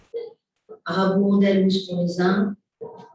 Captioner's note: non-english speech